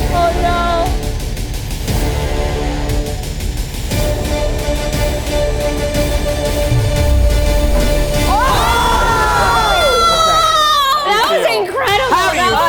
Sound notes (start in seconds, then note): 1.4 dramatic music; 8.3 everyone exclaims